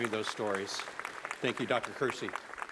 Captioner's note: applause